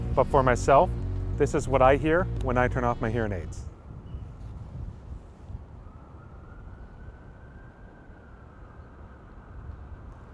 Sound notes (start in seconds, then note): 4.2 wind rushes; 4.9 distant sirens